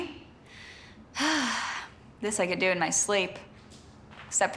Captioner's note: sighing